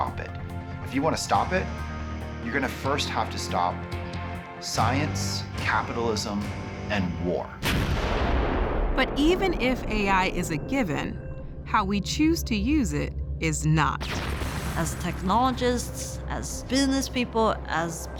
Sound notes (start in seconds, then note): 7.6 loud blast